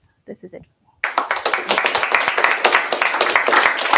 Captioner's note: applause